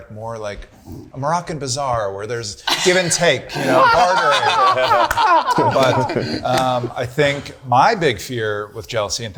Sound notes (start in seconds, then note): 3.4 group laughing